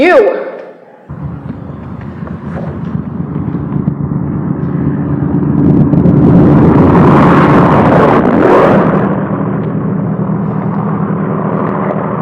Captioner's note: large WWII aircraft sounds